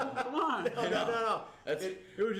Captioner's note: laughs